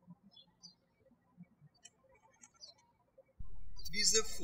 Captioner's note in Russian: птички щебечут